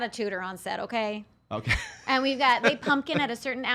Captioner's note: laughing